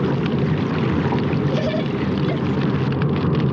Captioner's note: carrie whimpering